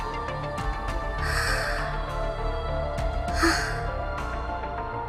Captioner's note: inhale– exhale